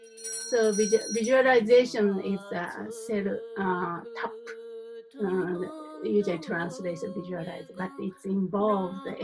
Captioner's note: in Tibetan